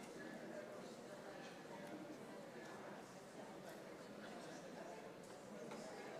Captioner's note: people chattering continues